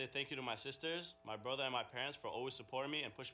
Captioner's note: speaking spanish